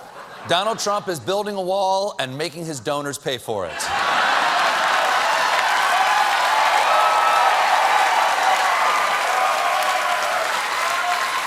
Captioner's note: cheers and applause; laughter